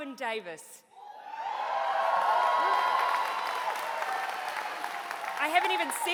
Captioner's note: cheering